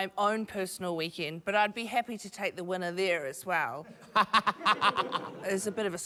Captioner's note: laughs